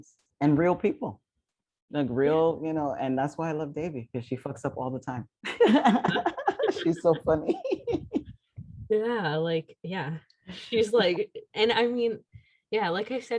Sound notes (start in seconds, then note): 5.4 laughter